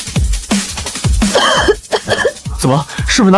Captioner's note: coughing